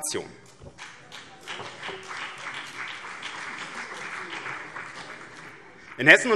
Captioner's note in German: Beifall BÜNDNIS 90/DIE GRÜNEN und vereinzelt CDU